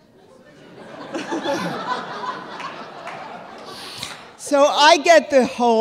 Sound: audience laughing

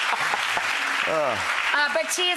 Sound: applause

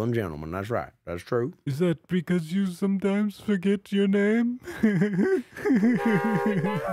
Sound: giggles

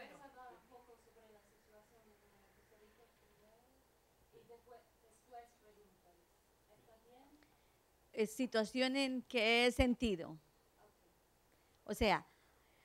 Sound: Spanish

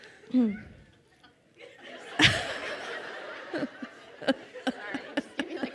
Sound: laughing

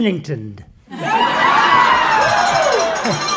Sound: cheers

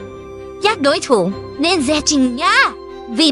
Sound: none

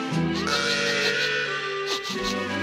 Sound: sniffs

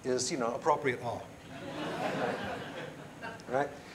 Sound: laughter

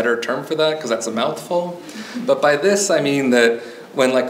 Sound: audience member chuckles

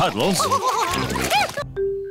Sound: all laughing

